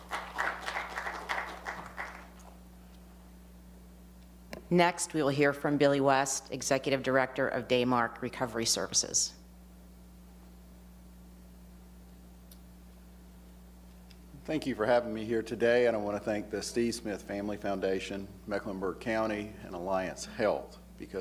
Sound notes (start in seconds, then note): 0.0 applause